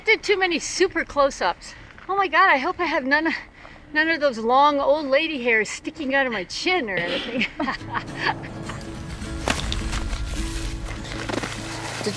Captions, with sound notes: Can't do too many super closeups. Oh my god, I hope I have none of those long old lady hairs sticking outta my chin or anything. (laughs) (upbeat music)